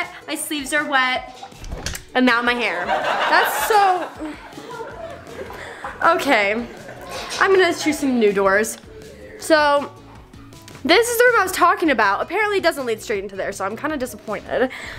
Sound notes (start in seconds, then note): 2.7 audience laughing; 3.8 whines